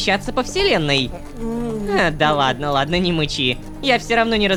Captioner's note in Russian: злобно мычит